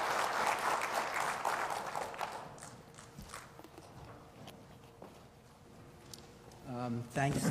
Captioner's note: applause